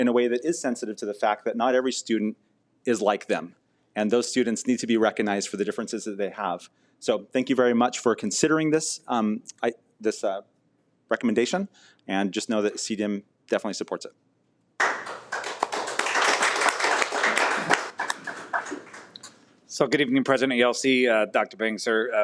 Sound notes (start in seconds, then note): 14.8 audience applauds